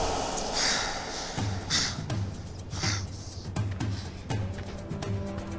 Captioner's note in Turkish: Nefes sesleri